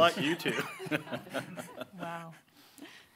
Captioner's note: audience laughing